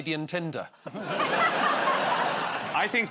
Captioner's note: laughter